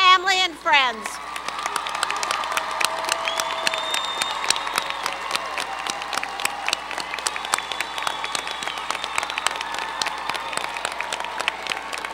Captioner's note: applause